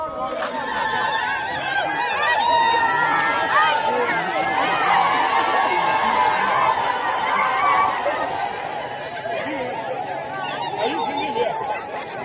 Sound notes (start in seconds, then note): 1.0 cheering